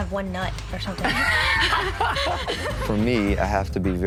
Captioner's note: both laughing